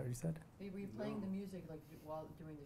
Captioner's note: voiceover